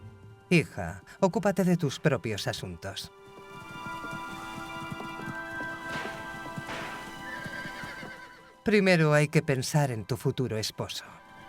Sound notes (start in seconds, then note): 3.8 gentle music continues; 7.3 horse whinnying